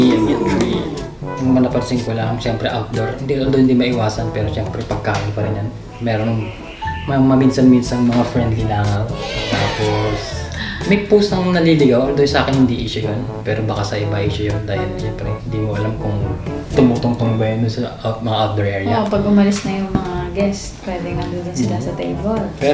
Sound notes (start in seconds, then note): 9.1 flies